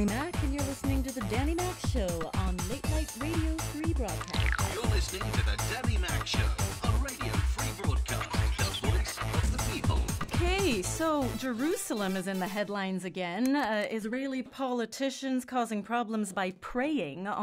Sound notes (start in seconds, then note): 4.8 voiceover